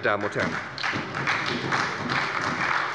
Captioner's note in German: Beifall bei der SPD